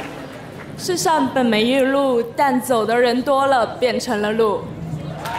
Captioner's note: speaking in foreign language